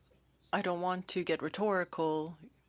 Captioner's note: speaking French